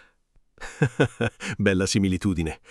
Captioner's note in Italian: Haha